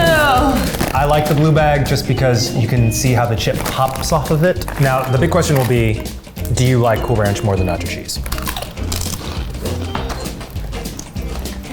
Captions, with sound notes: - I like the blue bag just because you can see how the chip pops off of it. Now, the big question will be do you like Cool Ranch more than Nacho Cheese? (crunching)